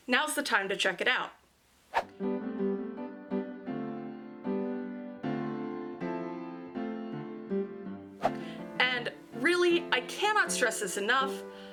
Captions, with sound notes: now is the time to check it out. (SWOOSH) (CHEERFUL CLASSICAL MUSIC) (SWOOSH) And really, I cannot stress this enough-